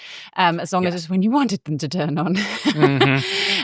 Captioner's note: laughs